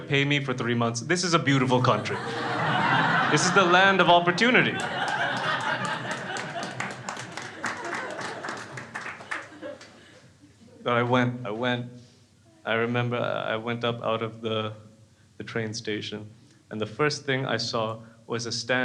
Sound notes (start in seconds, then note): 4.4 crowd applauding; 5.2 crowd laughs